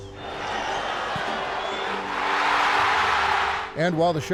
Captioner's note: crowd cheering